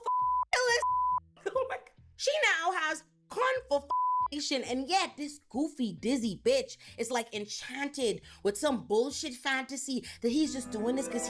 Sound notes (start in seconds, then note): 3.9 beep